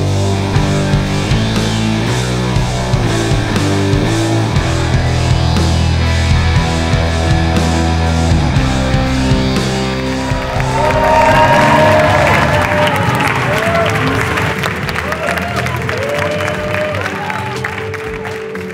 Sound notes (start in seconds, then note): 9.7 audience applauding and cheering